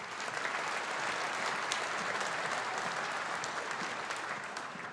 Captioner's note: audience applauding